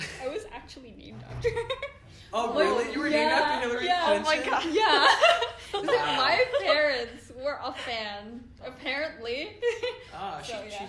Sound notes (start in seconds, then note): 1.4 giggles; 5.3 giggles; 9.6 giggles